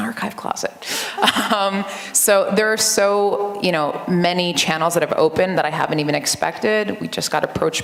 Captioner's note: laughter